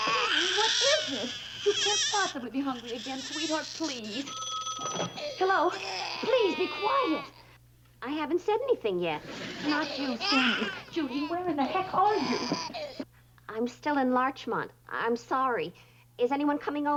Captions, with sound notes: Stanley, what is it? You can't possibly be hungry again. Sweetheart, please. -(phone rings) -Hello. -(Stanley cries) -Please, be quiet! I haven't said anything yet. Not you. Stanley. Judy, where in the heck are you? I'm still in Larchmont. I'm sorry. Is anyone coming over?